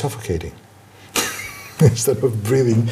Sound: laughs

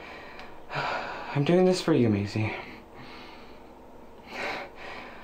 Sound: sighs; sighs

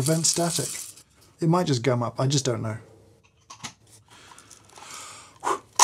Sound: exhales

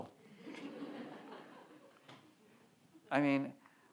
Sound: audience laughs

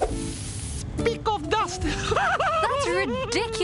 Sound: laughs

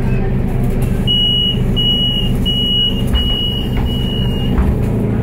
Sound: door closing buzzer

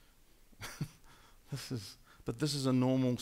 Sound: laughing

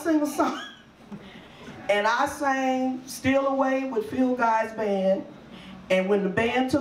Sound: laughs

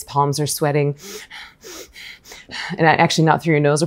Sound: breaths fast

